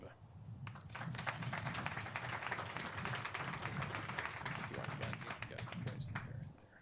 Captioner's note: clapping